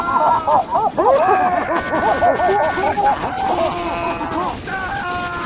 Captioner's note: demo screaming; pyro cheers; pyros laughing and cheering